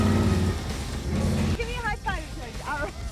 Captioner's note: laughs